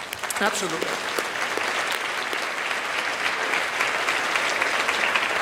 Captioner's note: audience claps